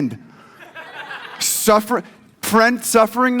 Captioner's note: audience laughs